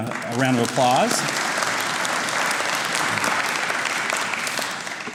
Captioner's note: audience applauds